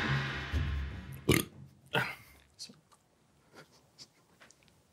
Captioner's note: gong banging; burps